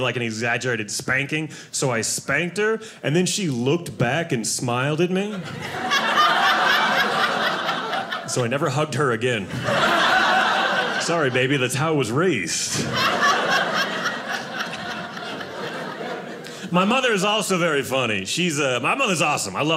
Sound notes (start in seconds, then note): 5.3 audience laughing; 9.8 audience laughing